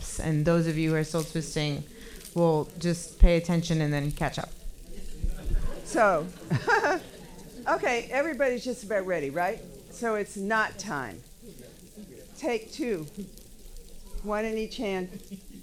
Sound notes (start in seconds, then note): 7.0 laughing